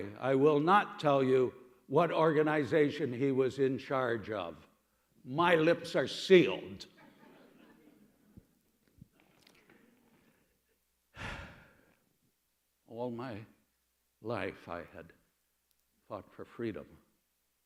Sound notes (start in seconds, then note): 11.1 deep breath